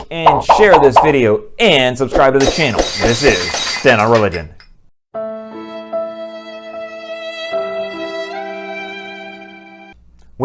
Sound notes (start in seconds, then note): 2.4 glass breaking; 5.2 sad music